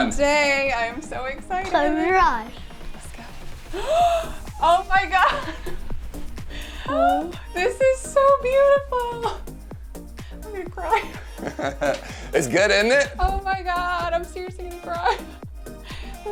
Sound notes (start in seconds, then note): 5.1 laughs; 10.9 laughs; 15.9 laughing